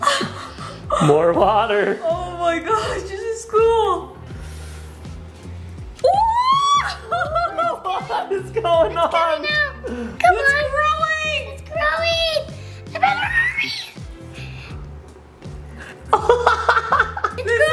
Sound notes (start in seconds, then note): 6.6 laughing; 15.8 laughing